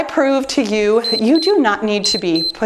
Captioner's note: timer beeps